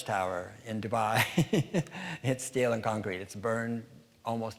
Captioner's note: laughing